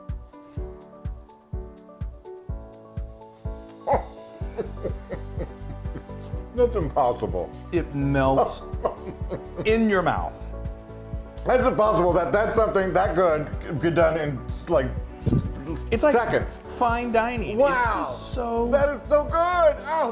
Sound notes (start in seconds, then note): 0.2 gentle music; 3.8 laughs